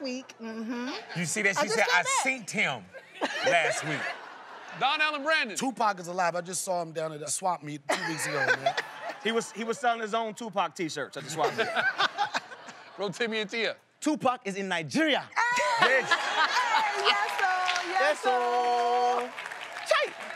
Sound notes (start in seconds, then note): 7.9 laughing; 15.4 laughing